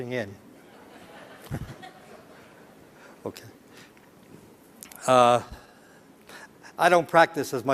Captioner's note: laughter